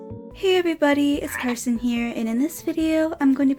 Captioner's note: ribbit!